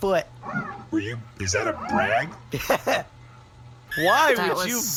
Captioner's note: laughs